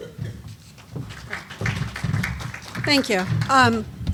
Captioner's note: applause